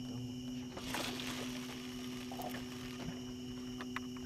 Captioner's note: splash